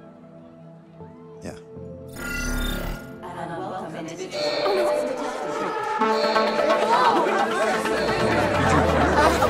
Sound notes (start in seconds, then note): 3.2 voice on PA; 6.1 loud chattering; 6.1 tense music playing